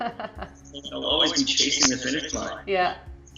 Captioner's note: laughter